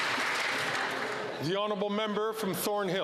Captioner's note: some Applause